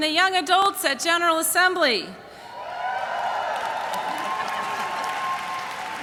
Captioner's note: cheers and applause